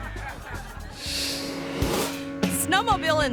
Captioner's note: audience laughing; engine whirring; graphic whooshes